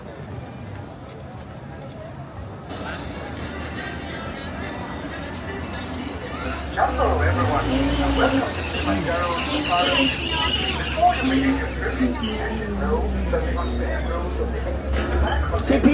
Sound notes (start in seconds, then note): 0.1 crowd chattering indistinctly; 10.1 vehicle squealing